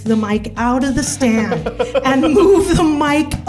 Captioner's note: laughs